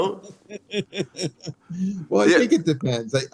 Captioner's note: laughs